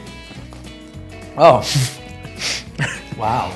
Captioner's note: exclaims